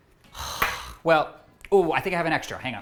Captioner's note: sighing